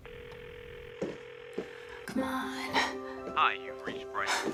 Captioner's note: phone ringing